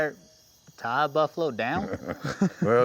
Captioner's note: laughter